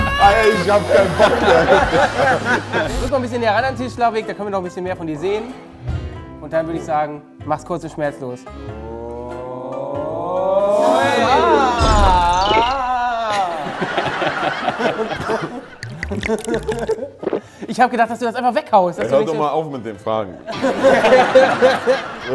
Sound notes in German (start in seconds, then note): 1.0 Lachen; 12.8 Lachen; 15.6 Gluckern; 21.8 Lachen